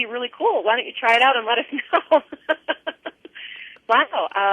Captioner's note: laughter